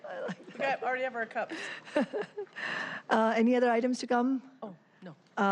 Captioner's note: laughter